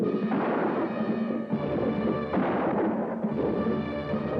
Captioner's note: gunfire popping